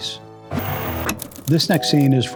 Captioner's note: static